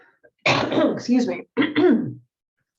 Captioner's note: coughs